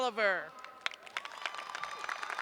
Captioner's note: cheers and applause